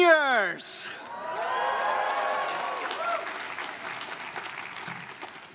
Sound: crowd cheers and claps

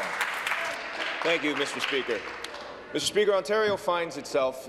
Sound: applause

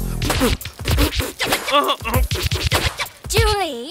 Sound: spitting

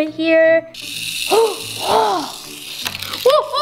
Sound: toy wheel spinning

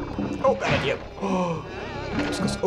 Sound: gasps

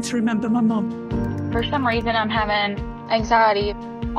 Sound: an American woman speaking

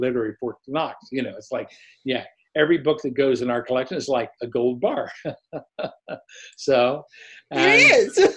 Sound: laughs

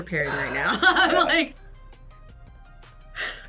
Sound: sighs; laughs

